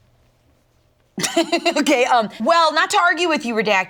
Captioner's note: laughs